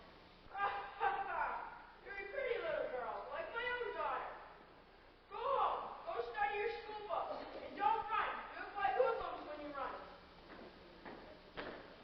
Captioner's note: laughs